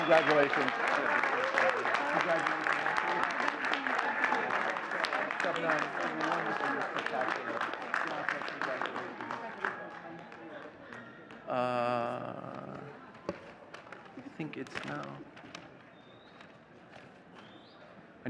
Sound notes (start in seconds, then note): 2.0 faintly speaking